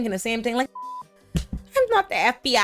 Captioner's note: beep